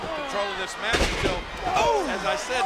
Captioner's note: blows thudding; body thudding